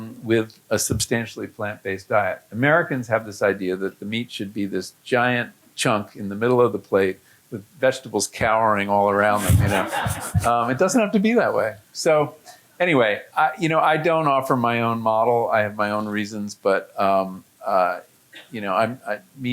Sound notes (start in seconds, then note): 9.4 audience laughing